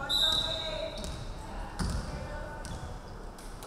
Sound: referee whistling

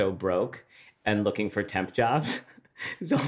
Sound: laughs

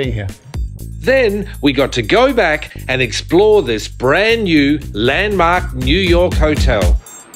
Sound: voiceover

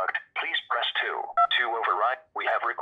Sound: button beeps

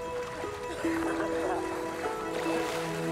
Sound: laughing

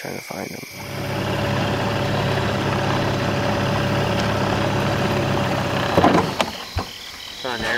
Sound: boat motor running

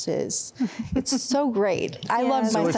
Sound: giggling

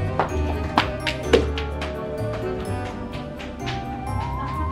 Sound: footsteps running

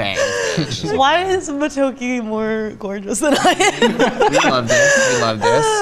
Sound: laughs

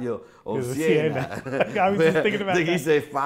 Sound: laughs

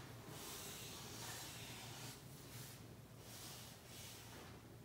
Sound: marker scratching

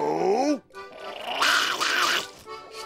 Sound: growling

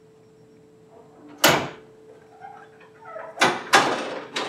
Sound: sound of door opening, cooler clanking against it

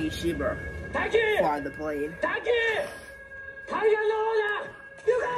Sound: sirens blare

